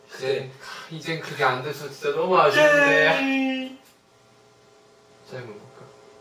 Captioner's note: whines